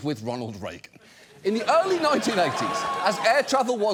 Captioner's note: studio audience exclaims